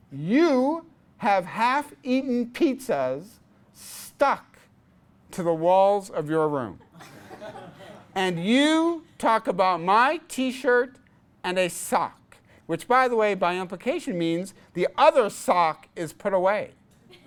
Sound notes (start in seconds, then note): 6.9 class laughs